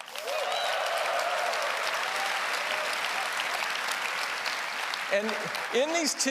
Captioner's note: applause